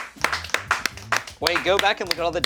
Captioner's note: crew applauds